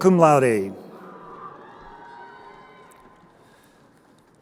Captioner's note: crowd cheering